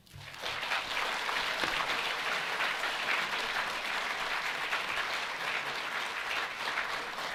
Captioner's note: audience applauding